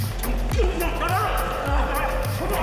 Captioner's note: grunt